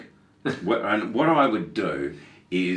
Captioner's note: laughing